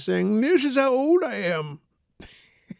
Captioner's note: laughs